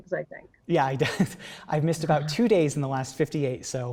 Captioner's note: laughs